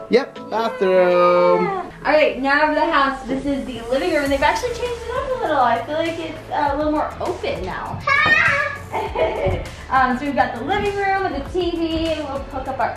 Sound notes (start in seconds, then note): 8.0 child screams; 8.9 laughter